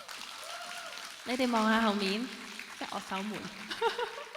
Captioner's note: applauds; Cantonese; laughs